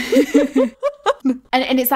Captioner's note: laughing